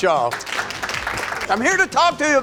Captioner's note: audience applauding